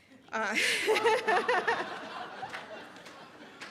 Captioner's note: all laughing